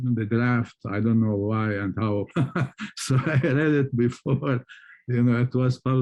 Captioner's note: laughs